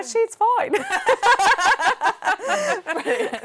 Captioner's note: laughing